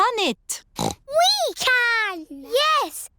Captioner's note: snorts